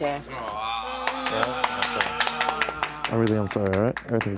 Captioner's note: applause